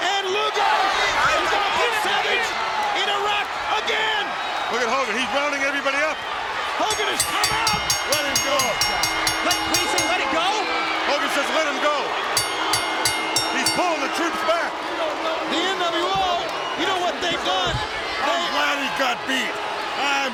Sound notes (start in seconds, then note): 7.8 bell rings